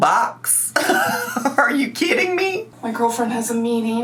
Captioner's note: laughs